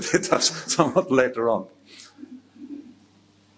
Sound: laughing

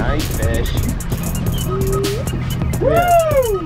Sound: mid tempo drumbeat; rhythmic whistling

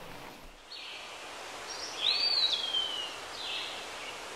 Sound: birds chirping

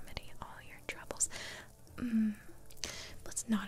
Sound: suspicious Hmm

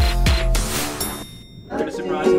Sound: hip hop music; elevator dings

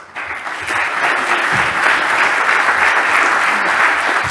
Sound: audience applauding

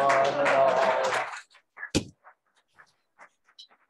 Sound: applause

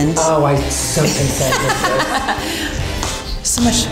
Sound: mistress laughing

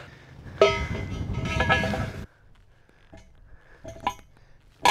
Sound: metal clinking

